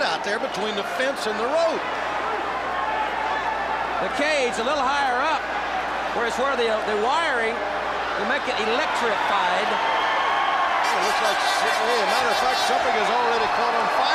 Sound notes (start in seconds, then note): 5.2 crowd chatter